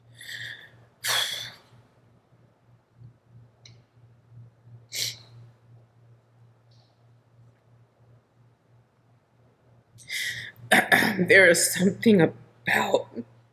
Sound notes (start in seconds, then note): 1.7 sniffling and exhaling